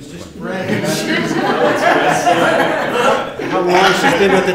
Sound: laughter

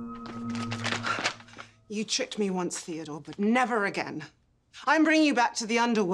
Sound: pulsating; sighs

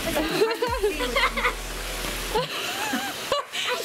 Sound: laughs

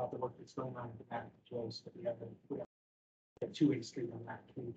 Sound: speaking faintly

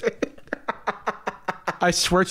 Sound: laughs

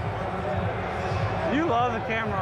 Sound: speakers blaring

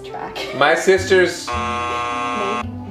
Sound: buzzer buzzing

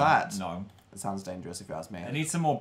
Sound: quietly

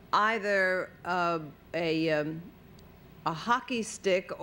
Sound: none

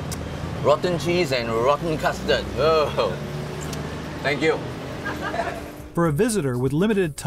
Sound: laughter

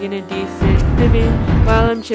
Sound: thunder BOOMS; birds chirping

